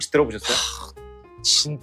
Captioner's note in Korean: 한숨